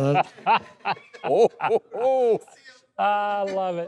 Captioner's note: laughing